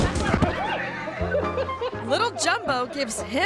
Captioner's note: tourists laughing